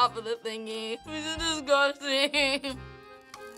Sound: disconcerted

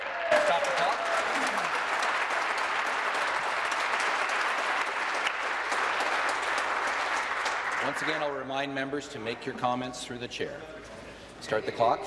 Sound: applause

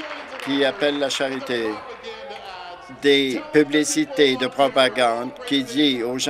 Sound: applause

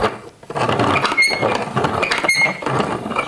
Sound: creaking noises

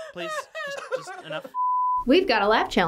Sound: screen beeps

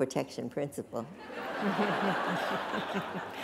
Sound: laughter

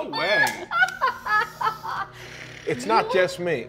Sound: laughing

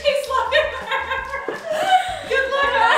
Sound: laughs

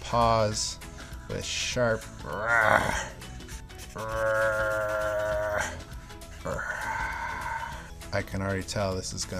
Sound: growl

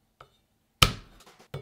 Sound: smash

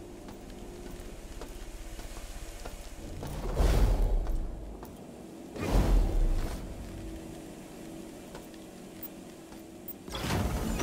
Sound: footsteps

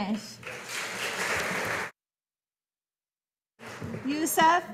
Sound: audience applauding

